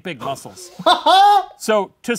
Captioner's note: laughing